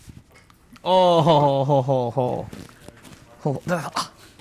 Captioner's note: laughs